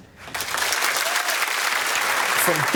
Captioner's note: applause